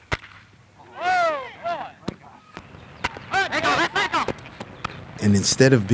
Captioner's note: commentator noises